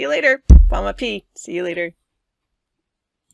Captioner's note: speaks indigenous language